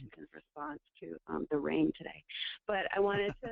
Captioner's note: laughs